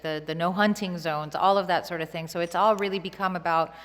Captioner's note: none